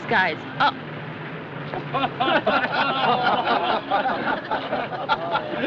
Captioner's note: people Laughing